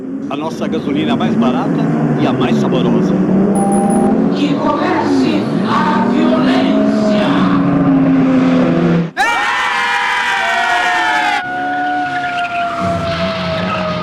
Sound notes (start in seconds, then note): 9.1 cheers